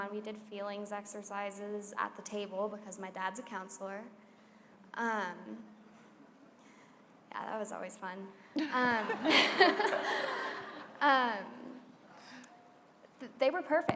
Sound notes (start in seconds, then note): 8.6 laughter